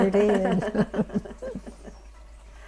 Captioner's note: laughter